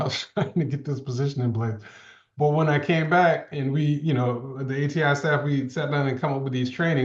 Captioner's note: laughs